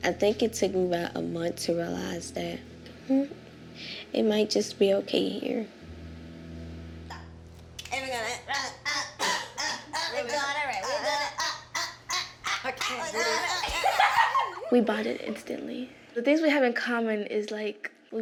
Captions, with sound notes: I think it took me about a month to realize that mmm-hmm, it might just be okay here. (rhythmic vocalizing) (laughter) - We bonded instantly. The things we have in common is like,